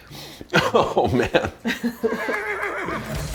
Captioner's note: sniffs; laughs; horse neighs